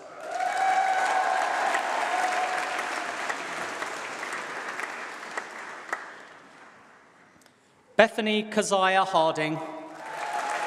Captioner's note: applause